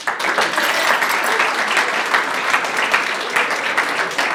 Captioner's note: audience applauds